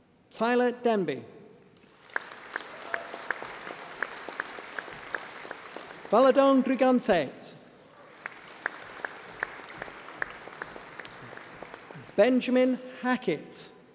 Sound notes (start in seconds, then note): 1.8 applause